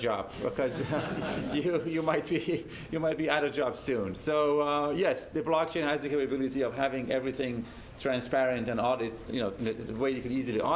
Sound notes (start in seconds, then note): 0.7 laugh